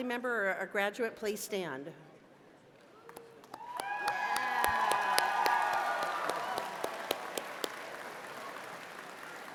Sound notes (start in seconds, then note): 3.4 cheers and applause